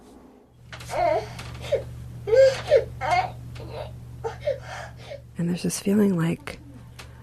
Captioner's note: baby crying